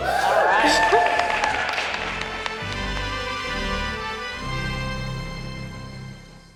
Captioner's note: chuckles; staff applaud and cheer